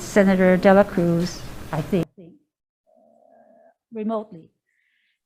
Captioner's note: audio cuts out